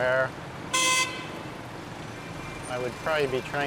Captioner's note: car honking